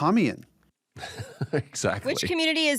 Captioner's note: laughing